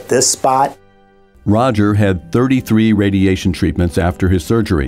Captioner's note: voiceover